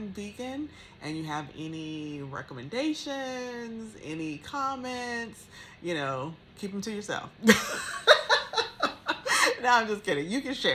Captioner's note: laughs